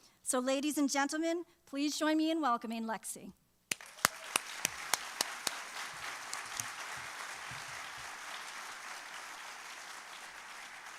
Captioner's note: applause